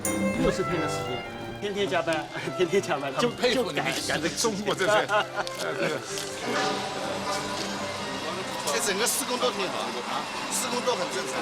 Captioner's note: man speaking Chinese